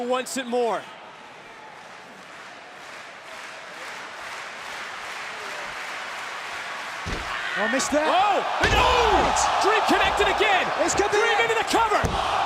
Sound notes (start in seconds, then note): 3.7 crowd cheering